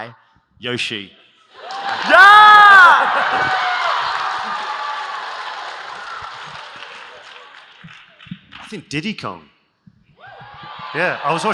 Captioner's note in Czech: Smích; Potlesk